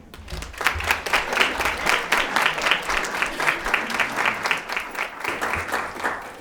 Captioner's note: audience clapping hands